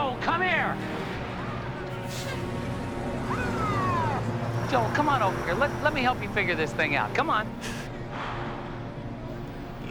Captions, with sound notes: Joel, come here! (siren wailing) Joel, come on over here, let-- let me help you figure this thing out. Come on. (Joel gasping)